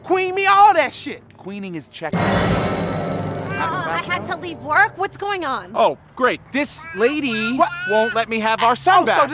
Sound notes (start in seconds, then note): 2.1 zap